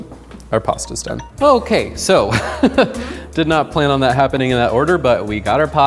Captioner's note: laughing